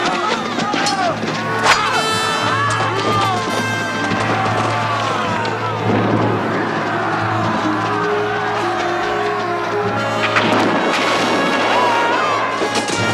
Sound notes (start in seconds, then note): 7.1 Aplausos